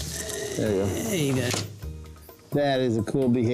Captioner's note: camera clicks